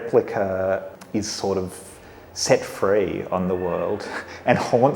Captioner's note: laughs